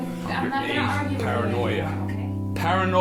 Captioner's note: multiple voices